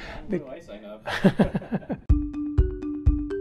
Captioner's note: laughs; chuckles; instrumental music